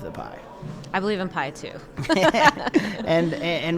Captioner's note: both laughing